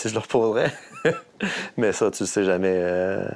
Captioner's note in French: rire